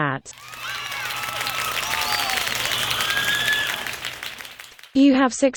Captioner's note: crowd clapping, whistling & cheering